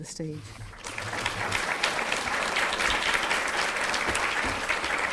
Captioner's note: audience applauds